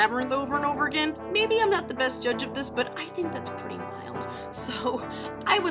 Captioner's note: giggles